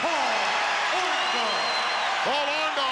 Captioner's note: crowd cheers